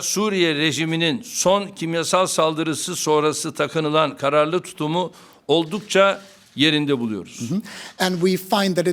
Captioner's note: speaking Turkish